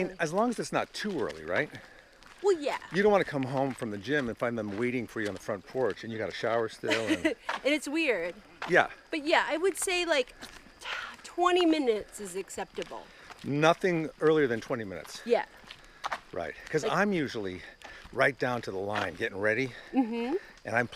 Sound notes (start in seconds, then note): 6.8 laughs